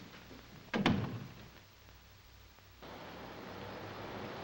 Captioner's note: door thuds shut